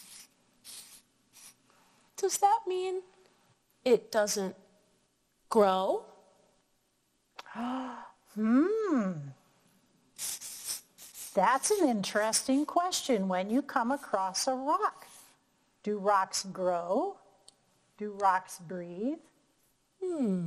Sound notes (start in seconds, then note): 8.4 gasping and humming thoughtfully; 20.0 humming thoughtfully